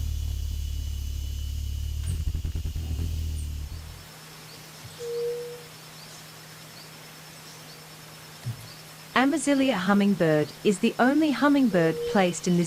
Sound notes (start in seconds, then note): 0.2 bird chirping; 0.2 bird's wing flapping; 3.2 birds chirping; 4.9 bird cooing